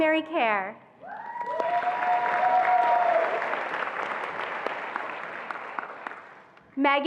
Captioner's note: attendees applauding and cheering